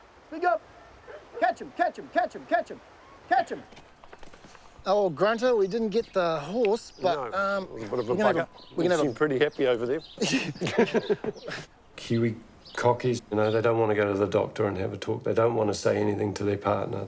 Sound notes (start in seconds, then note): 10.1 both laugh